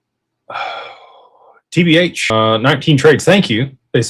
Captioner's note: sighs